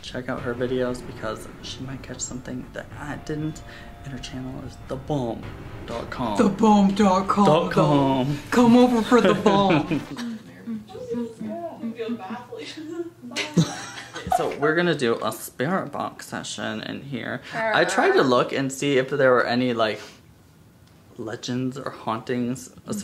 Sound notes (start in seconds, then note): 10.8 humming; 13.3 laughs